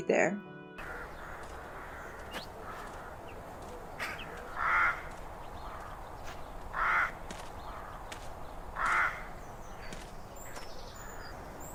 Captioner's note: ambient and a crow going caw caw